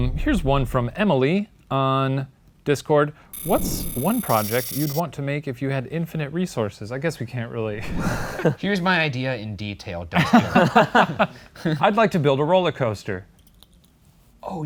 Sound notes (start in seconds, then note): 7.8 both laughing; 10.2 guys laughing